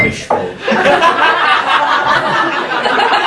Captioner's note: laughing